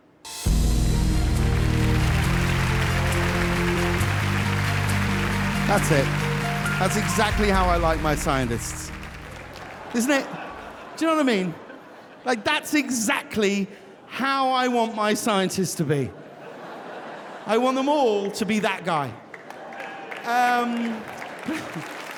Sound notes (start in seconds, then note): 0.2 hopeful music; 0.4 audience applauding; 16.0 audience laughing; 19.2 audience applauding